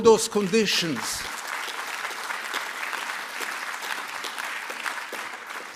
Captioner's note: applause